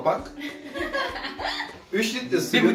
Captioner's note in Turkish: gülüşmeler